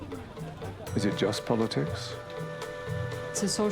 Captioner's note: voiceover